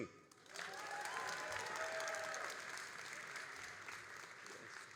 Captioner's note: all applauding and cheering